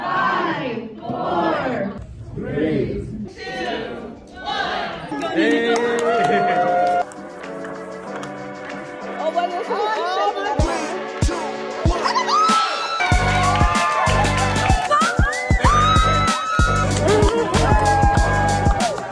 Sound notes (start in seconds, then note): 4.9 groups cheering and clapping; 12.1 different groups cheering and clapping